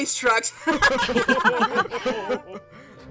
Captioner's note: all laugh